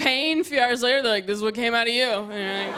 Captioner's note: laughter